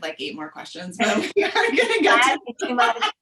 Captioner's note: laughing